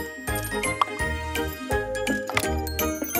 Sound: pops

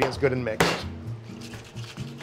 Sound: shaker tin banging; cheerful music; liquid sloshing

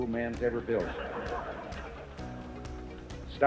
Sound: crowd laughs

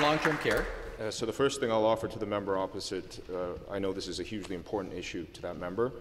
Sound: some Applause

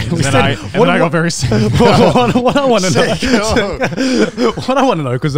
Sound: everyone laughs

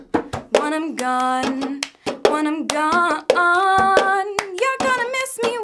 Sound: soulfully

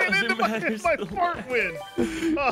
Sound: laughs

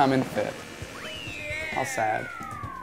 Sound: game whistles

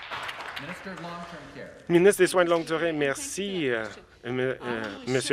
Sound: some Applause

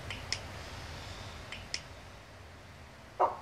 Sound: click click

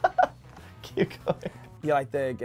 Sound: laughs; laughing

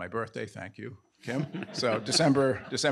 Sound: all laughing

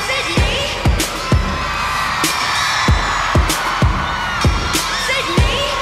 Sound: cheers and applause

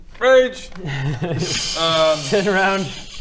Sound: laughs

